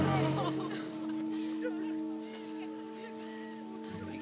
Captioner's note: sobbing